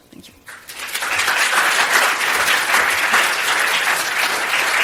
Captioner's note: applause